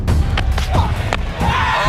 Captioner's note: cheering